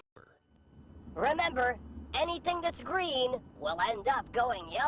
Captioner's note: voiceover